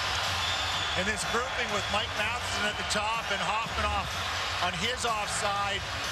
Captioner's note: cheers and Applause